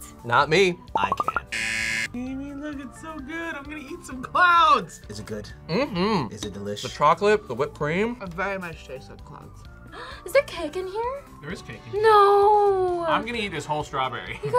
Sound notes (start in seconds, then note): 1.5 buzzer; 10.1 gasps; 14.3 laughs